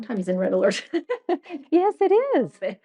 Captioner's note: laughing